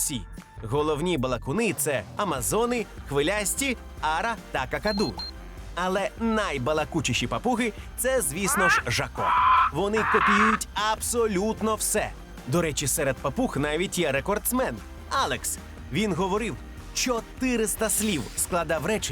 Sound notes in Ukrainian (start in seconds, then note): 8.4 крик папуги